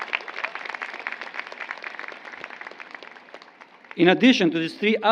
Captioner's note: applause